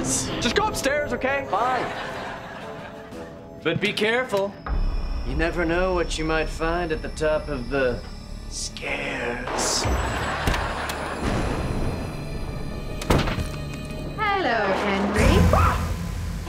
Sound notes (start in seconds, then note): 9.4 thundering; 15.3 screaming